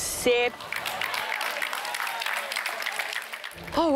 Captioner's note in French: applaudissements